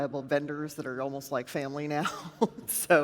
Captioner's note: chuckles